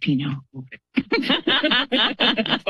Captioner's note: laughter